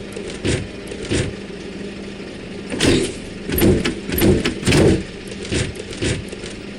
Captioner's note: windows slamming